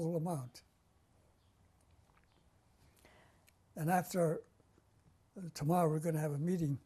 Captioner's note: pauses for 3 seconds